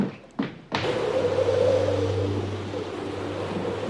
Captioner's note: wind blowing